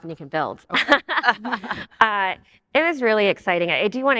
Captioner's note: all laugh